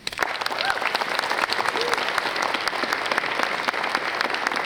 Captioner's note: audience applauds